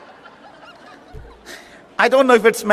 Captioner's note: chuckles